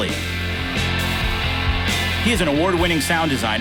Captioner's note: audience applauding